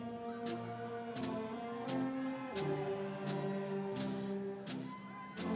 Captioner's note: audience cheering